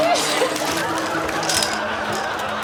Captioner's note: laughs